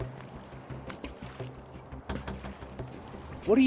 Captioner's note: splashing noise